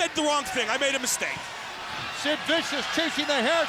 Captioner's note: crowd cheering